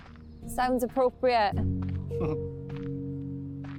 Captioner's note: giggles